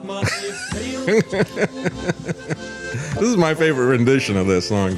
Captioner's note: soft Music; laughing